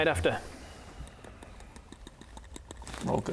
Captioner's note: unintimidating dice noises